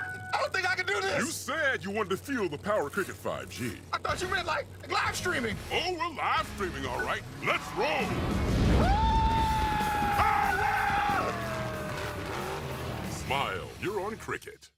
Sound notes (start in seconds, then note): 8.7 screaming